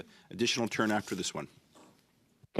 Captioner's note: speaking French